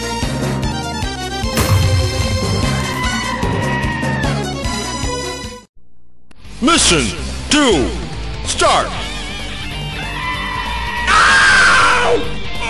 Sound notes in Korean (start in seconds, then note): 9.8 비명